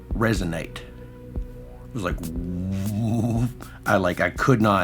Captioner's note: woowoom sound